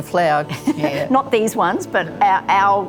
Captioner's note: chuckle